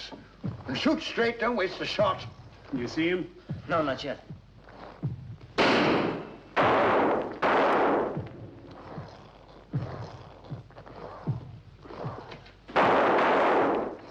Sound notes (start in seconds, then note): 2.9 estrondo tiros; 5.5 demônios batendo